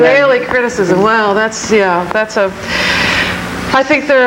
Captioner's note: sighs